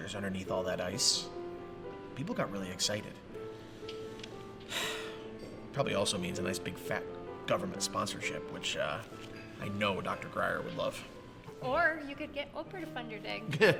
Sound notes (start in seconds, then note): 4.6 sighs